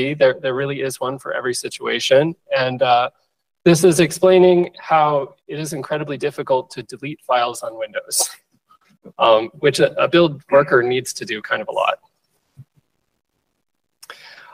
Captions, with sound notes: There really is one for every situation. And this is explaining how it is incredibly difficult to delete files on Windows, [LAUGHS] which a build worker needs to do a lot.